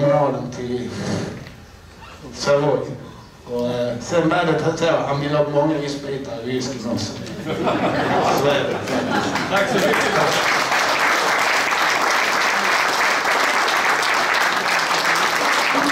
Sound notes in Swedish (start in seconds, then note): 7.3 Skratt; 11.7 Applåder